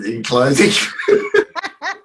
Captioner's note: both laughing